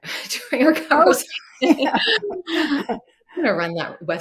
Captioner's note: laughing